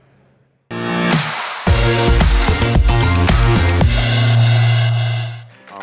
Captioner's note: applause